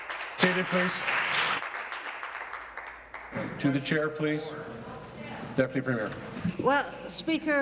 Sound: applause

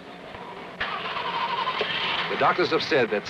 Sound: car engine starting

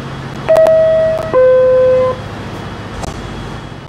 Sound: door closing chime plays

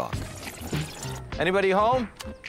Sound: tape speeding up sound

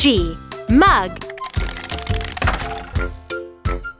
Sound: tile clicking; upbeat music

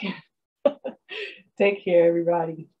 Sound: chuckles

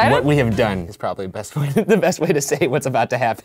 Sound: laughs

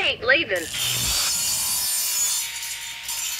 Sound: circular saw buzzes

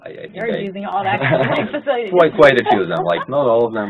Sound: laugh

